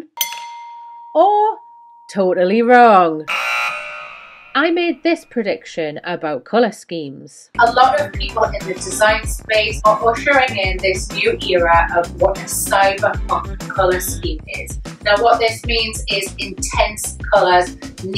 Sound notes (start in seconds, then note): 0.0 dinging; 3.2 buzzer beeping